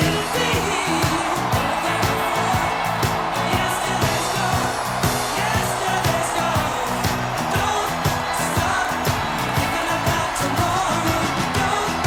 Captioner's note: sustained cheers, applause